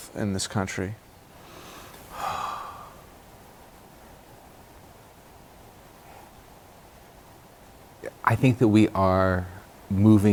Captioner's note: sigh